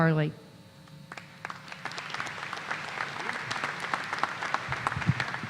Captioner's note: applause